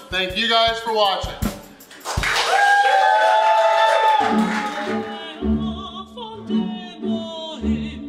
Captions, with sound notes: thank you guys for watching! (crowd cheering and clapping) (opera music playing)